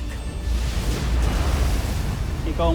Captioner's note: wind flare whoosh